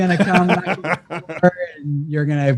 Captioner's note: laughs